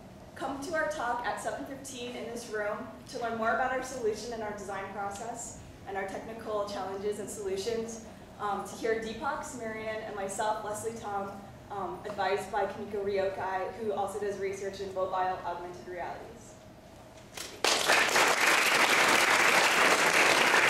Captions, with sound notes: Come to our talk at 7:15 in this room to learn more about our solution and our design process and our technical challenges and solutions to hear Deepak, Sumeria, and myself, Lesley Tom, advised by Kimiko Ryokai who also does research in mobile augmented reality. [APPLAUSE]